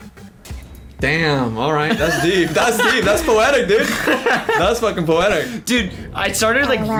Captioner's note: laughs